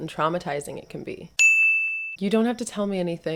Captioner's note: ding!